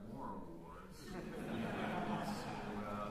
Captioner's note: laughter